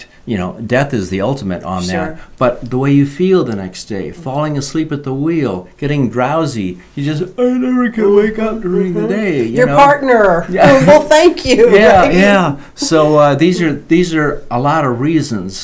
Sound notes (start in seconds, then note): 7.3 yawning; 10.3 laughing